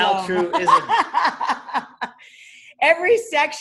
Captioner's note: laughs